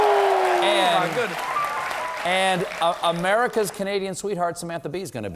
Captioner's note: applause